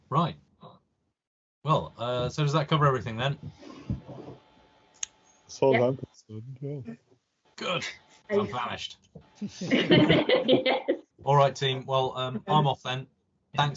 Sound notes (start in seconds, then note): 9.6 laughter